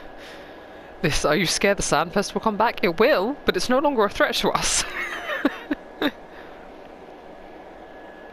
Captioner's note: laughs